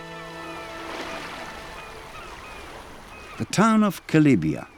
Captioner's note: waves lapping